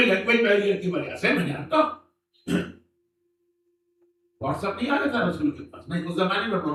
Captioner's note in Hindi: गला साफ़ करने की आवाज़